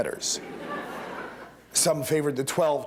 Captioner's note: laughter